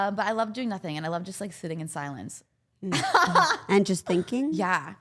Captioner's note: laughs